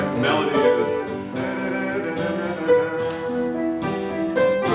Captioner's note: hums melody